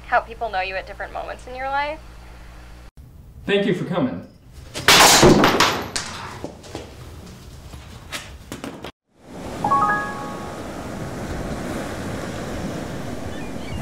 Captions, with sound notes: how people know you at different moments in your life. - Thank you for coming. (crash) (light music)